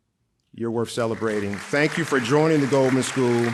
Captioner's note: audience applauding